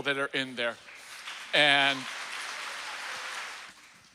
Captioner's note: applause